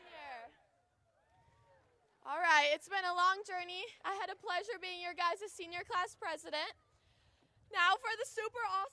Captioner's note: chanting